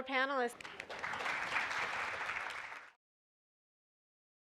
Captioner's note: audience applauding